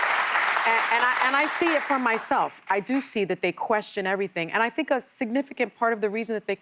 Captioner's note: applause